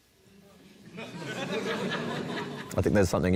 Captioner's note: laughter